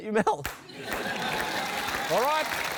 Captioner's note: laughter